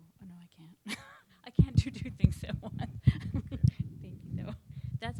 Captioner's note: laughs